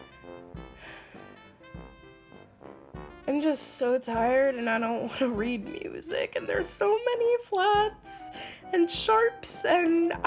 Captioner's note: sigh